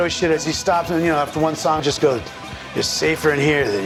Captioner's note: mimicking Joey's voice